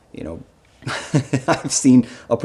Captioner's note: chuckling